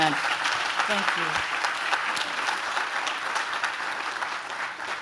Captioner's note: audience claps